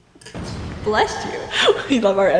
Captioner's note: kaboom sneeze